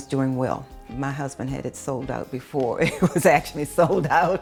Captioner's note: laughs